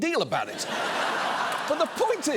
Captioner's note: audience laughs